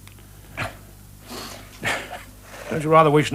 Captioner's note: governor laughs